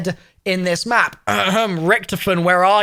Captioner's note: coughs